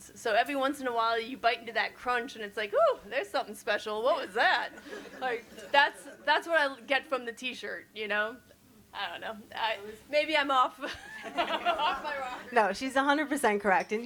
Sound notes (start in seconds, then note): 4.8 audience chuckles; 10.9 laugh